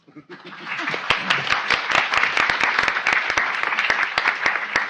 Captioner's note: audience applauding